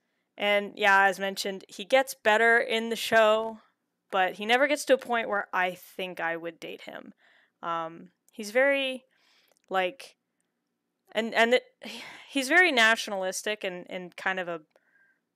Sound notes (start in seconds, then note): 11.1 stammering; 11.7 sighs